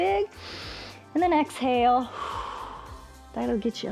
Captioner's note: exhales; inhales